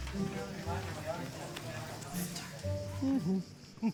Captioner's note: crowd murmurs annoyed